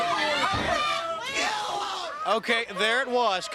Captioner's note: crowd chatter